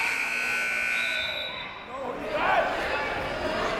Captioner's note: siren buzzing